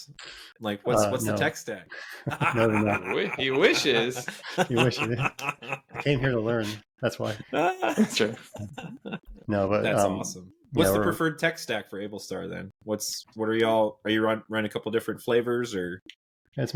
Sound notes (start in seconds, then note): 2.0 laughing; 7.2 laughing